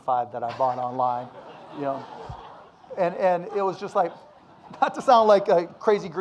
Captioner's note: audience laughing